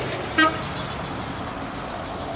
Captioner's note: horn toots